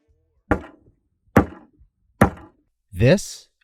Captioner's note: ax pounds board